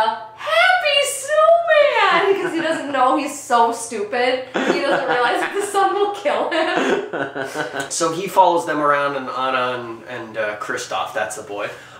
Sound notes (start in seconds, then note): 4.5 laughing